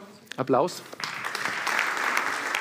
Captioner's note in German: Applaus